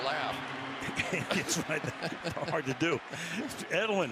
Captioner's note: laughs